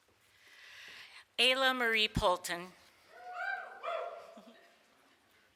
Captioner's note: small group cheers